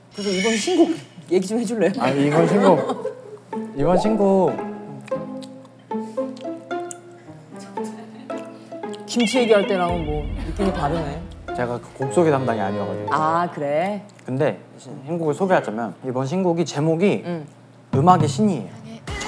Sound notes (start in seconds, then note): 6.2 chew chew chew